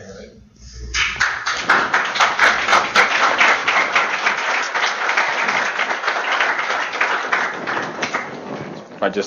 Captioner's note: applause